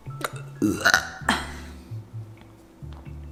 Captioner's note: burps